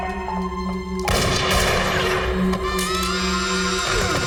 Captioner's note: guns banging